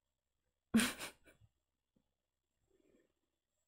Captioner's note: laughs